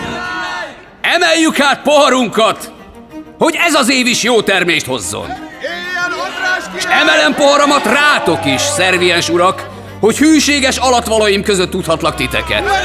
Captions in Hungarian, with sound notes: Emeljük hát poharunkat, hogy ez az év is jó termést hozzon! [Éljenzés] S emelem poharamat rátok is, szerviens urak, hogy hűséges alattvalóim között tudhatlak titeket! [Éljenzés]